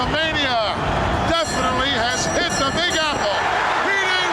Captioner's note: bell ringing